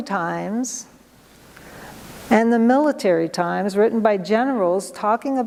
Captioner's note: none